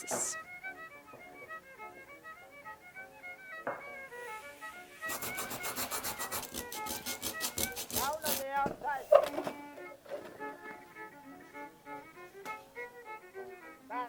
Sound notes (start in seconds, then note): 5.0 sound of sandpaper doing its thing; 9.3 cheerful Music